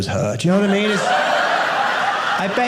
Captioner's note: audience laughing